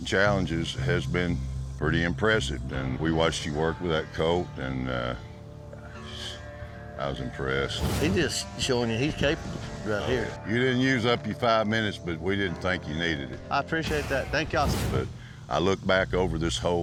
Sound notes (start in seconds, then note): none